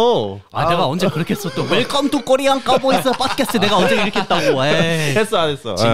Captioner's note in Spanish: imita lo que dijo